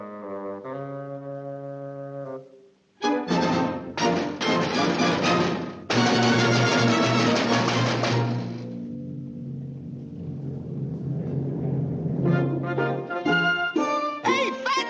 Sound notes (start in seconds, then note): 0.1 somber playful music; 6.1 fists pounding; 10.5 dramatic drumming; 12.4 bright music